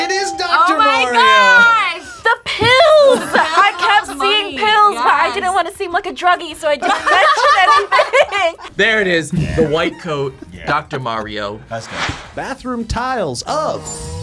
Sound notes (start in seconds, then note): 6.8 both laugh